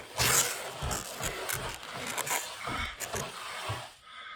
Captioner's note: clawing at the wall